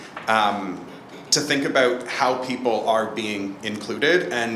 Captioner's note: none